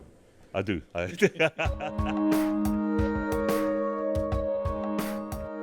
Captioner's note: laughs